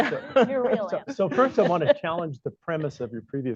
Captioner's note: laughter